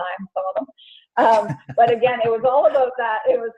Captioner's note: laugh